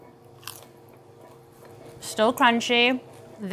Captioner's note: chip crunches